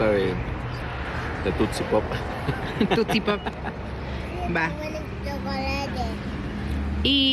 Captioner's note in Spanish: risas